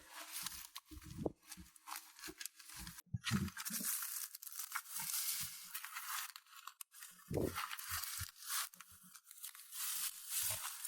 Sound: rustling sounds while plucking grasses and mixing the soil; sound when pouring water and noises when mixing soil

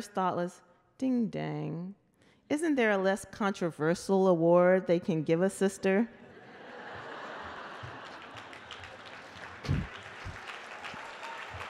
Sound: laughter and Applause

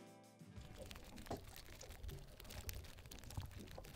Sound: fish flapping

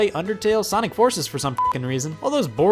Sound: beep

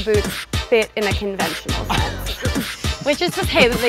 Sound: laugh

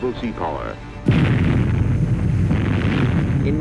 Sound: explosion

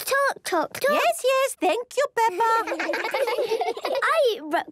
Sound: children laughing

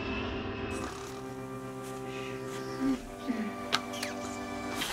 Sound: both snoring

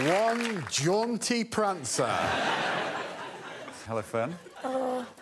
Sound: crowd applauds and cheers

